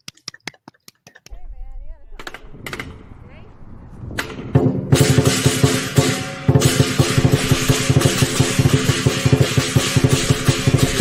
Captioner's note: claps